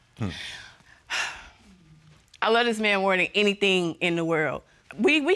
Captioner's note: scoffs; sighs